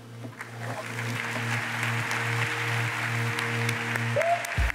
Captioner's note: audience applauds